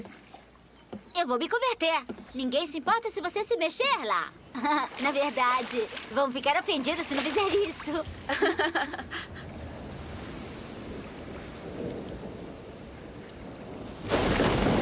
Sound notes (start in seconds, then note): 8.2 laughs; 8.9 wind howling; 12.6 thunder